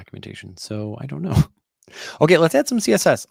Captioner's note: chuckles